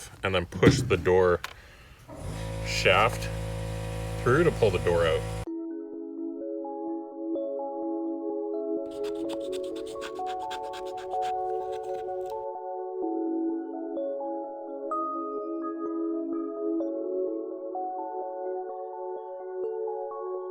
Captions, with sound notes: and then push the door shaft through to pull the door out. (slow techno music) (scraper scraping)